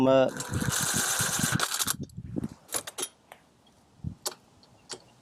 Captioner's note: power tool revving